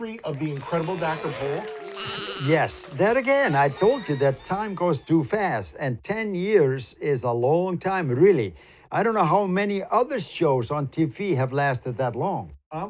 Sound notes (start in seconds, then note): 0.0 animals applauding; 1.9 goat bleating